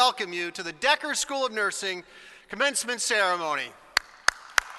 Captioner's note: applause